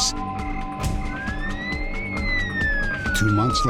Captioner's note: ambulance sirens